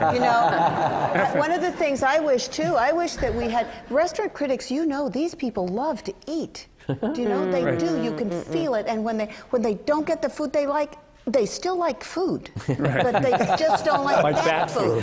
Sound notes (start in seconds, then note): 0.0 laughter; 12.6 laughter